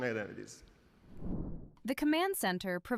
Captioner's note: graphic whooshing